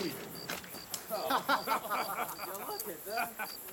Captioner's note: men laughing